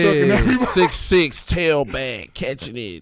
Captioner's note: laughs